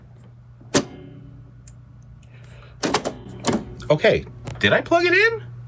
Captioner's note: knob turning